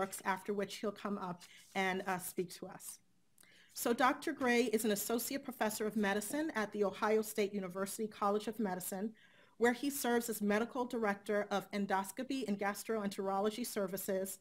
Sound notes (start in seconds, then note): none